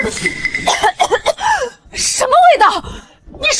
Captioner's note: cough, cough